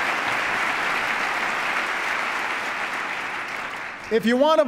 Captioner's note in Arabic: تصفيق